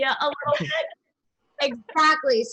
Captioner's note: laughter